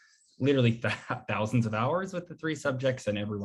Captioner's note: chuckles